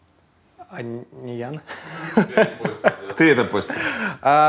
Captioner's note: laughs